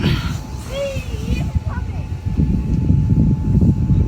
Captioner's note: boy yelling